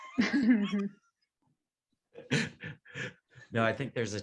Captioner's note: panelists laughing